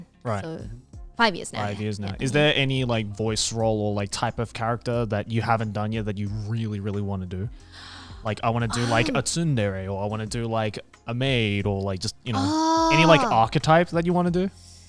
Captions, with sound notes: - Right. - So, five years now. - Five years now. Is there any like voice role or type of character that you haven't done yet that you really, really want to do? Like, I want to do like a (speaking in Japanese), or I want to do like a maid or like just, any like archetypes that you want to do?